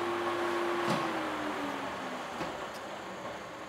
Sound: whirring stops

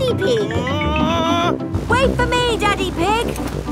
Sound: screaming

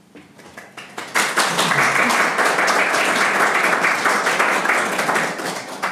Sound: audience applauding

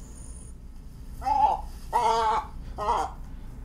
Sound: squawking

